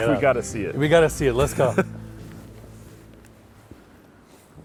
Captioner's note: chuckles